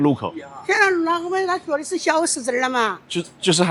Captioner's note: chongqing dialect